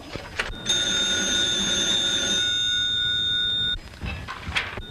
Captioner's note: ringing continues